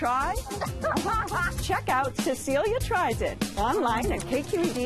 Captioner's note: laughs